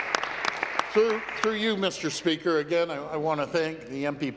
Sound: applause

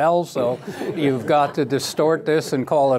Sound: laughter

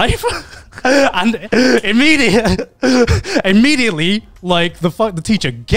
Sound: laughs

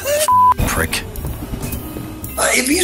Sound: gargling; beep

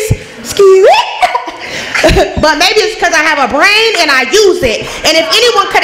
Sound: laughs

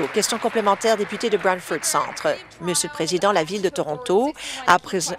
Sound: applause

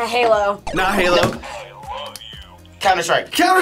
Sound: buzzer

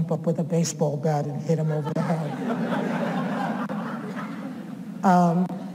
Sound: audience laughs

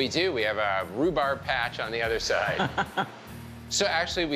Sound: chuckling

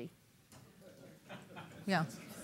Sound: laughter

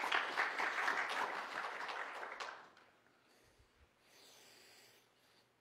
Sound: applause

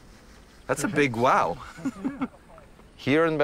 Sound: laughing

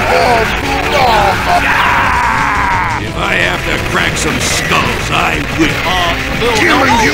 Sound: growls

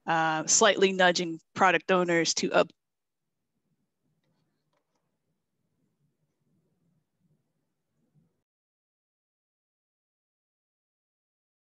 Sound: silence

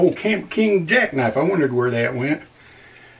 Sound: none

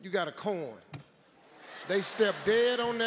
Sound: audience laughs

